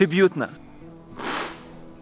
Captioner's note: sips